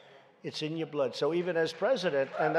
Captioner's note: applause